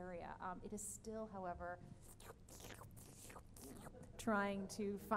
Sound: makes sucker sound

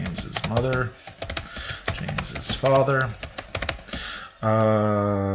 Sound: typing

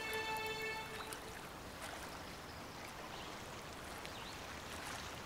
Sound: water babbling

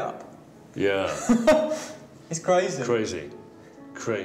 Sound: chuckles

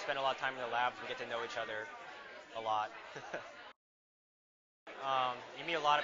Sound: laughing

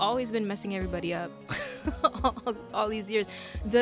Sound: laughs

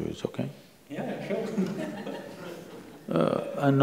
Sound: few laugh

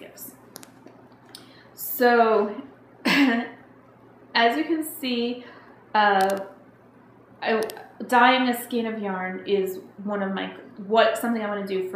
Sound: clearing throat

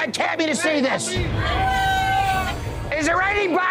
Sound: patrons cheering

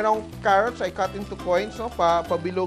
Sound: sizzle

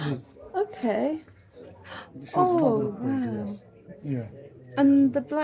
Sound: gasp

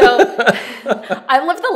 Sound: laughter

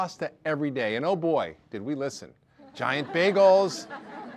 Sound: audience laughter

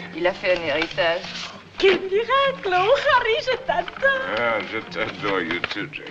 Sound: French; French

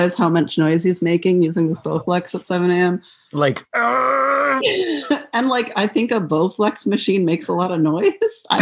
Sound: groan; laughter

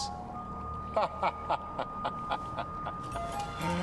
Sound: laughing

